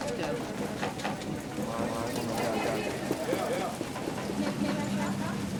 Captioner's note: people chattering